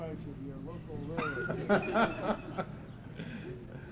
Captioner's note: laughter